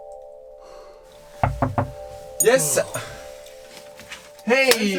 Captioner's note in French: Toc, toc, toc